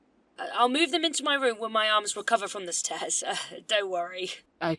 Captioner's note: laughs